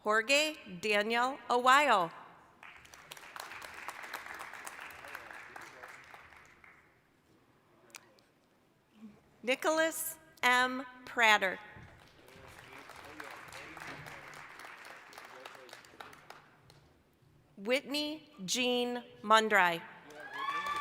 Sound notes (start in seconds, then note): 2.6 applause; 11.8 applause